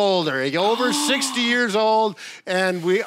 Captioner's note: gasps